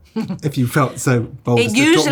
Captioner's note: Kate laughs